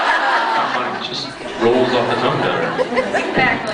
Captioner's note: laughs